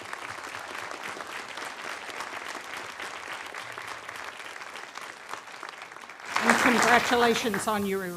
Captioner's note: applause